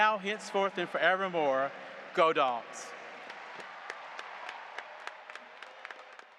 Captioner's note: audience applauding